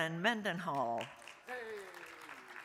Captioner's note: crowd applauding; crowd cheering